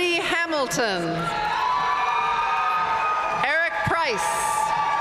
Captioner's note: audience cheering and applauding